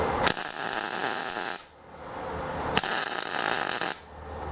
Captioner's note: torch buzzing